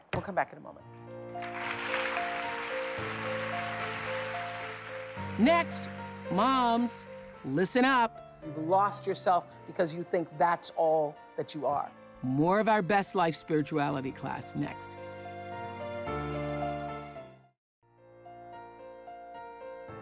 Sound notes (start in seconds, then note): 1.3 applause